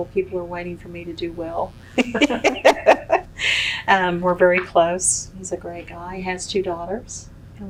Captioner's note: laughs